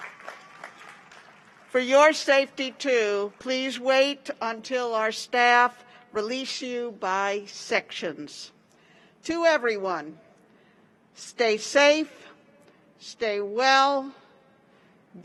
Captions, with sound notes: WE ARE SO GLAD YOU WERE ABLE TO BE HERE WITH US. [APPLAUSE] FOR YOUR SAFETY, TOO, PLEASE WAIT UNTIL OUR STAFF RELEASE YOU BY SECTIONS.